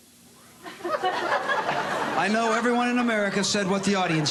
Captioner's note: laughter